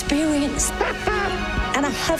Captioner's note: The Doctor laughs